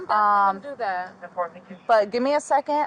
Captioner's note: radio chatter